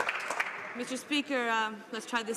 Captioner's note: some Applause